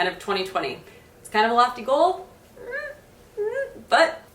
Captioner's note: murmurs